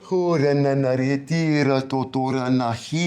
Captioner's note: non-english speech